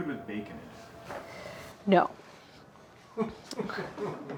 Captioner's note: laughing